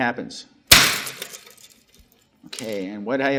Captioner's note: spring thwacks loudly